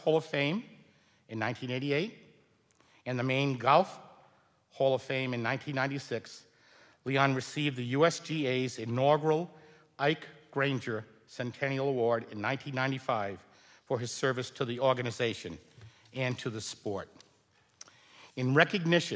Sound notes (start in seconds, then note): none